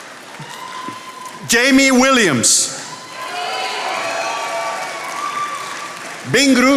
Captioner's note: attendees applauding